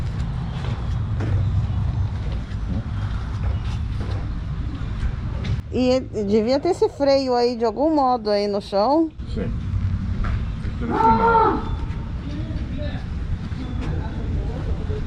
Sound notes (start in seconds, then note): 10.8 screams of 2 young people in one of the cannons come out very loudly ... Ahahah